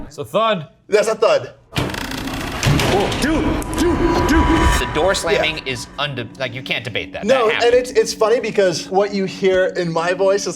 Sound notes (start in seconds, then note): 2.0 door creaking and slamming